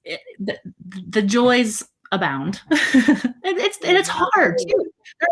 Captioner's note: laughs